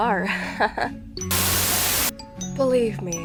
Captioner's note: Static